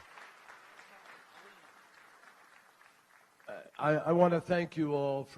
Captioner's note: applause